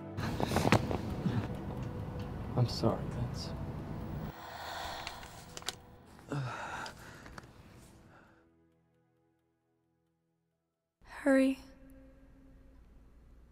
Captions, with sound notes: - I'm sorry, Vince. (woman's breath) - Hurry.